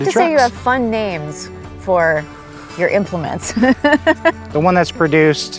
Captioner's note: laughs